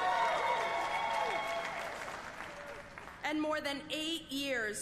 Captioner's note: applause